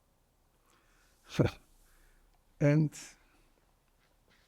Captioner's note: laughing